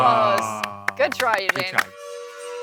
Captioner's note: clapping